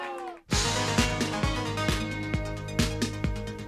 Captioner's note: crowd chatter